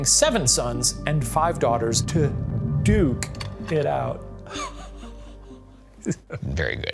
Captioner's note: laughs